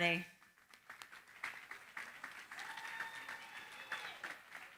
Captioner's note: cheering, applause